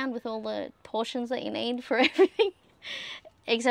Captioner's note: laughing